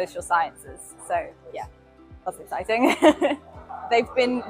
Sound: laughs

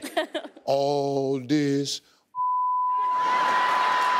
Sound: beep; audience laughing

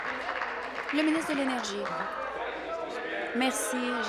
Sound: applause

